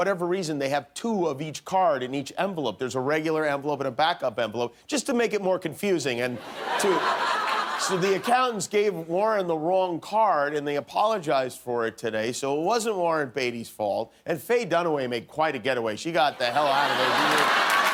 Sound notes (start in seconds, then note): 6.4 laughter